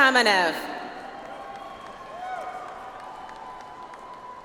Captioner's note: audience applauds